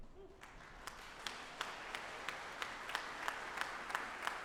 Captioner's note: audience applauding